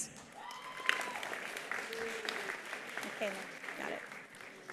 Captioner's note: attendees applauding; attendee cheering